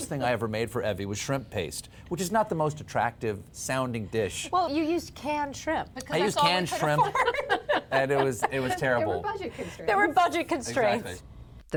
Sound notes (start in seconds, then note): 6.8 laughter